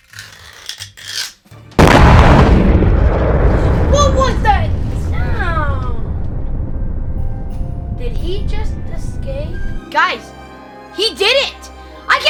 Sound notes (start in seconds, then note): 0.0 scraping; 2.2 loud exploding